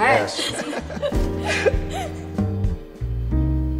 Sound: both laughing

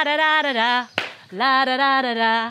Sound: claps

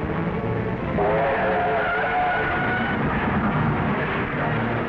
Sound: car screeching

